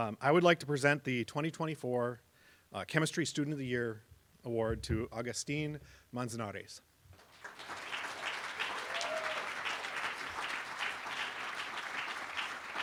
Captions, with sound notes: I would like to present the 2024 Chemistry Student of the Year Award to Agustin Manzanares. [APPLAUSE]